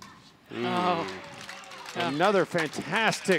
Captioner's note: all groans